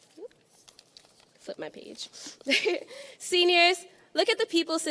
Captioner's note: laughing